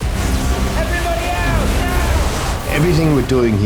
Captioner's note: alarm